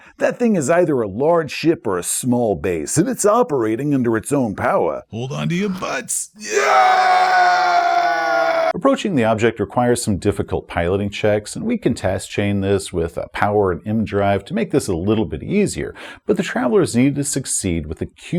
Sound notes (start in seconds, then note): 6.4 screaming